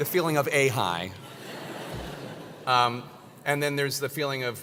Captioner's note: laugh